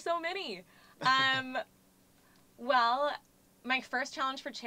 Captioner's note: laugh